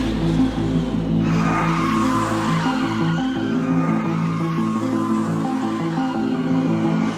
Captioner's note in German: stark quietschende Reifen